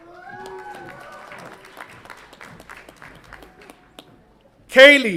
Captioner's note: audience applauds and cheers